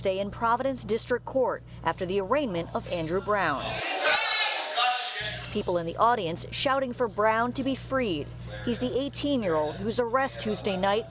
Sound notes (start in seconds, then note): 4.0 shouting